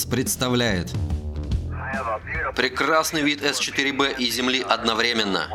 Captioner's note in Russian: по радио